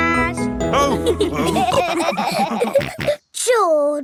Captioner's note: all laughing